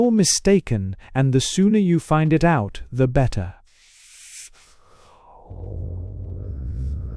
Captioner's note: rising breathless